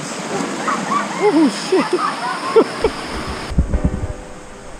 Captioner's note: laughing